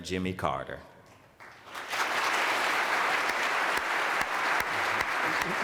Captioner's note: applause